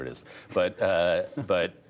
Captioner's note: laughter